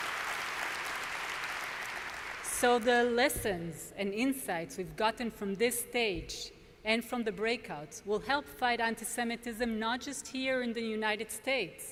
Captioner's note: applause